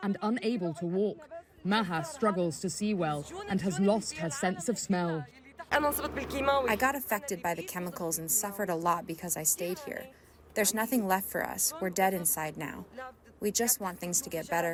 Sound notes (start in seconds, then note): 5.7 through translator